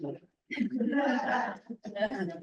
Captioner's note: laughter